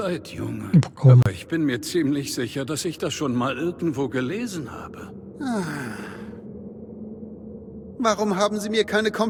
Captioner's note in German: seufzt